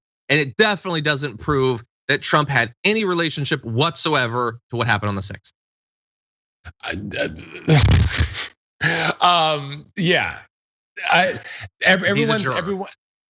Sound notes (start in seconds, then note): 6.1 laugh